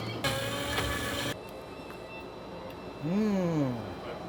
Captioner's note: blender whirring